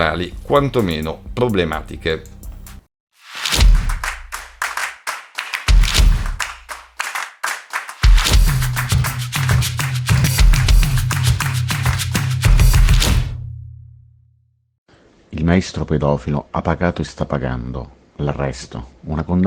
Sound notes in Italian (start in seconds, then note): 0.9 Applauso